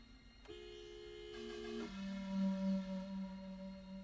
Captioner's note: car horn honks; suspenseful music